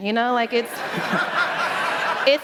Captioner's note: laughter